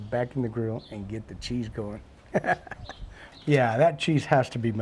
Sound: laughs

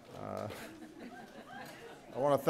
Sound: laughter

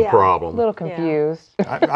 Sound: laughing

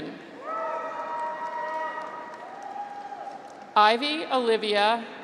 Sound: graduates cheer

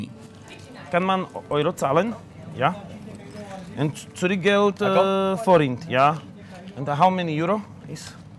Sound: speaks in combination of German and English

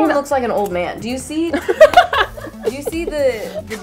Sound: laughter

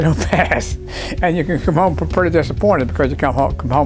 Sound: laugh

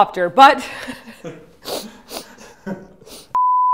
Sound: sniffle, sniffle; beep

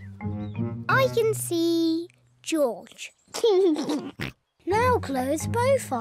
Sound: laughs

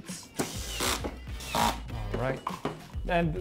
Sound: screwing in

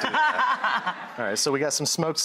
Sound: laughing

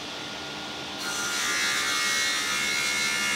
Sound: shrill sawing noise

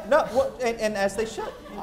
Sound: laughter

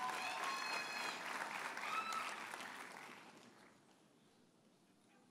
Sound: audience cheers and applauds

